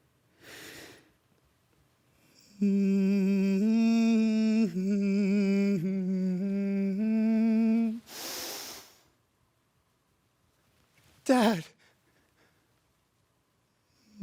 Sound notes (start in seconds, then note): 0.4 sharp breaths; 2.3 humming; 8.0 deep breath in; 8.7 silent; 11.7 soft breathing